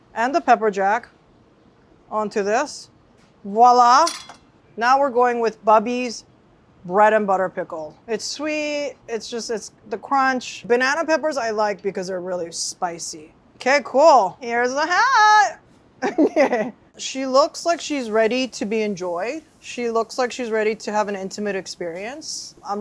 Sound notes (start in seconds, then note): 16.0 laughs